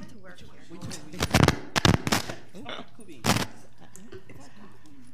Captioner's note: microphone crackling